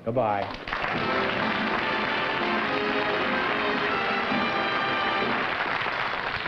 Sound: applause and music playing

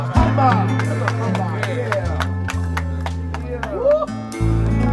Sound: clapping and applause

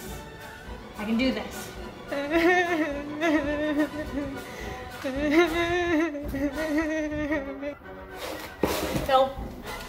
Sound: panic crying

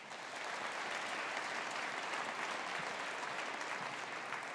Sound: audience applauding

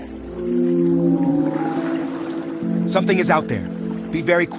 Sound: whale sounds

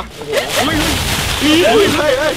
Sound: footsteps; leaves moving

